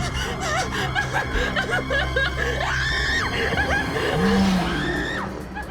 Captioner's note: sobbing; screaming; moaning